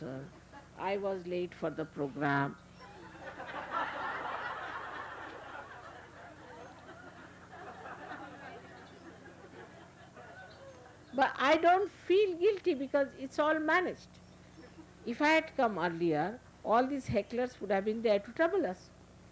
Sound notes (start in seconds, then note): 2.9 laughter